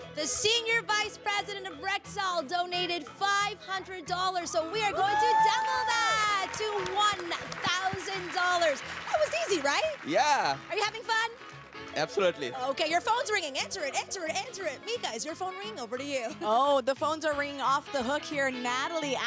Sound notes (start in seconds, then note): 11.0 cheers and Applause